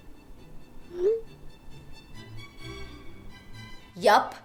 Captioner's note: text notification